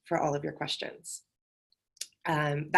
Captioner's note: none